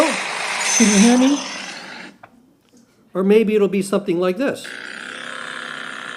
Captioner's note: jackhammer